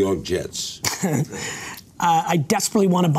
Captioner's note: laughter